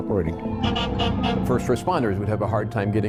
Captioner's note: fire truck honking